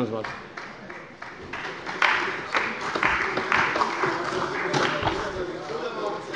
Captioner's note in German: Beifall bei der CDU